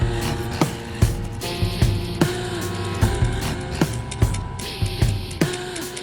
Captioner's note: counter ticking